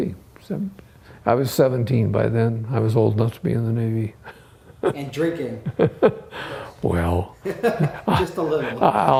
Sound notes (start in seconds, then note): 5.6 chuckles; 7.4 laughter